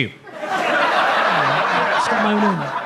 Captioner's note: audience laughs